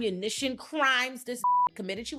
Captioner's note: beep